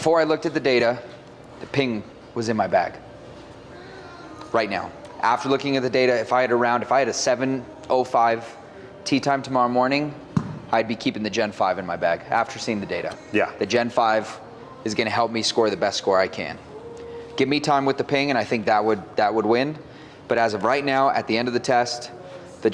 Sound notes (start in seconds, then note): 10.3 club-head thumping